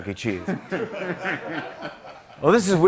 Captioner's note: laughter